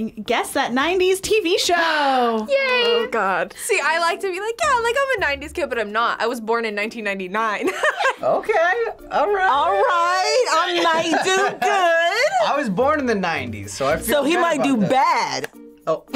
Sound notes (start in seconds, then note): 7.9 laughs